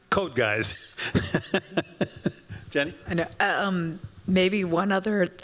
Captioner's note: chuckles